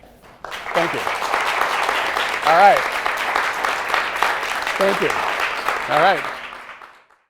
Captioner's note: applause